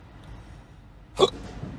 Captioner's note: hiccup